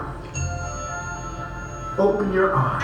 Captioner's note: ding